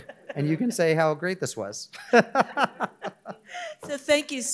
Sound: laughs

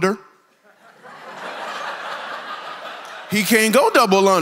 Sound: congregation laughs

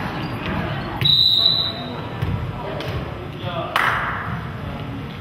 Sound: whistle blows

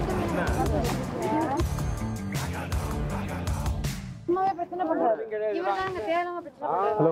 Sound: indistinct chatter; indistinct chatter continues

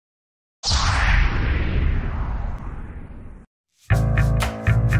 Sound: sound Effects

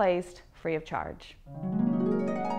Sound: chimes

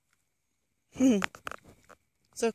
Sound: laugh

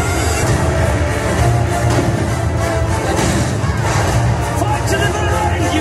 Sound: energetic music; fireworks blast

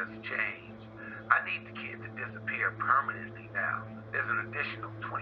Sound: speaker phone

